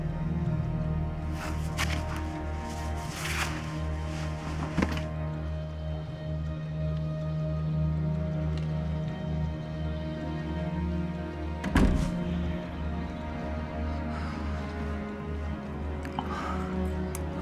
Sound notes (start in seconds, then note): 11.6 door clicks; 12.7 dramatic music